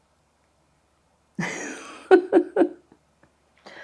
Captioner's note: laughing